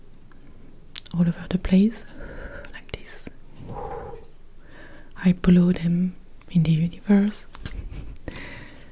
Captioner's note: blowing